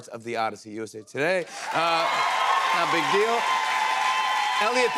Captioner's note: cheers and applause